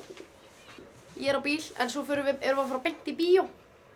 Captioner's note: speaking Icelandic